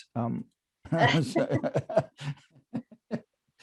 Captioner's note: laughter